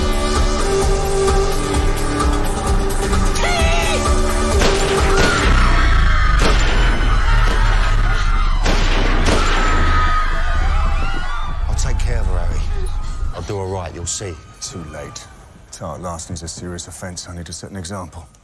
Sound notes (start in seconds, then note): 4.6 gunfire; 5.9 crowd screaming